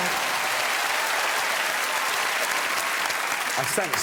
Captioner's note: cheering and applause